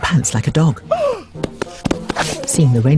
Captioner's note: snowman gasps